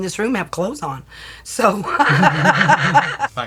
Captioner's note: laughs